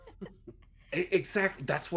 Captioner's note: everyone laughs